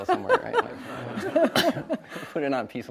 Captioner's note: audience laughs